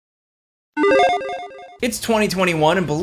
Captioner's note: logo beeps